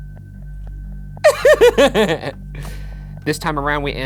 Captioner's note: laughs